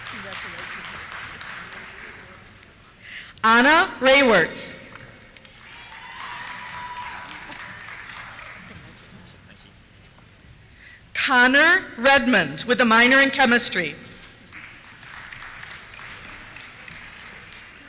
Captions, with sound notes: Congratulations. Anna Rawerts. (cheers) Congratulations. Connor Redmond, with a minor in Chemistry. (applause)